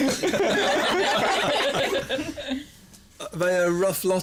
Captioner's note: laughter